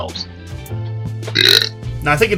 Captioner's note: burp